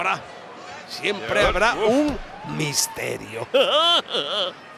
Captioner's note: laugh